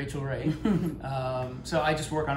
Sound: laughs

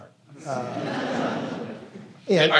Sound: laughter

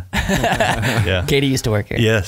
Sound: laughing

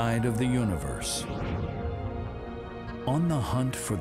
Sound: air whooshing

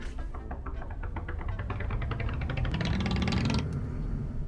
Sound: knuckles thudding

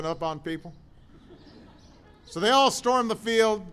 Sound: laughter

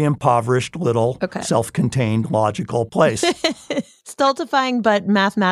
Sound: laughs

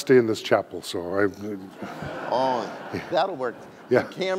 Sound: audience laughing

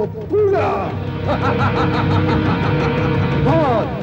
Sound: laughs

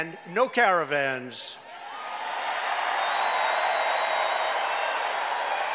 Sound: cheers and applause

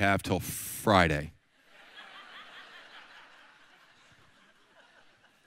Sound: audience laughs

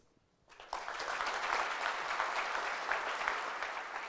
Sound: applause

